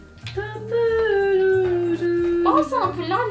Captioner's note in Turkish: şarkı mırıldanıyor